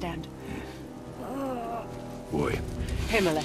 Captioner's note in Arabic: تأوه